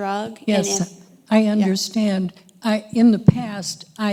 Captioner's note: voiceover